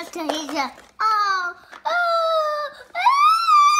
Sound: whines

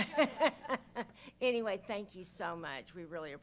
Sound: chuckles

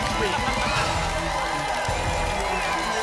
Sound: applause continues

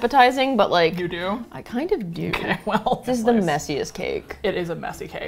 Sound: laughs

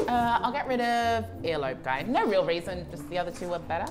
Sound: none

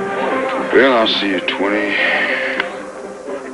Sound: sighs

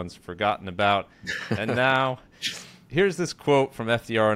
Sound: chuckles

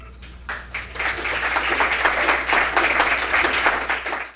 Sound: audience applauding

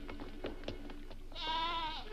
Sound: goat bleats

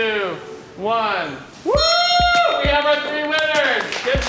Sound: cheering

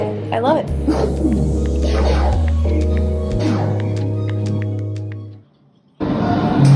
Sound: pew pew

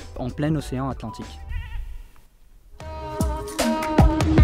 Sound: goat shouting

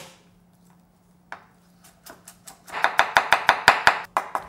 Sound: chopping garlic

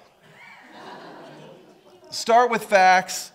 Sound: audience laughing

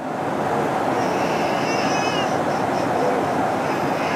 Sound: loud crying

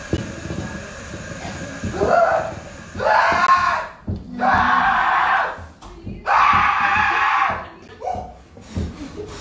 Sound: screaaams

